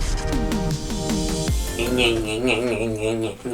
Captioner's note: making weird noise